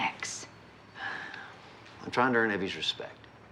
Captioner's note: sighs